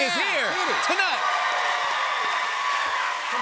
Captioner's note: cheers and applause